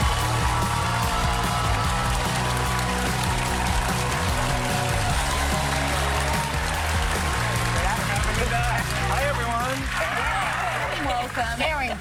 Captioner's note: cheers and applause